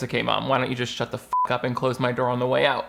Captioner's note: beep